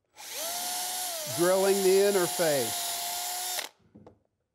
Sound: drill drilling

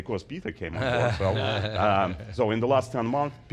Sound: laughs

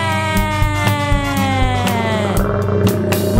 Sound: animal sound: crocodile roar

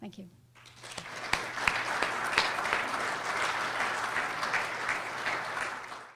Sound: applause

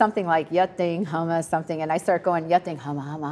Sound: speaking in foreign language

